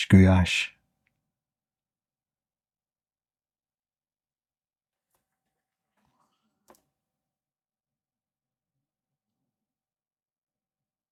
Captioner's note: silence